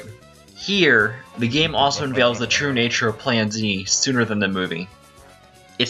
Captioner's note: Hotel Mario Bowser Laugh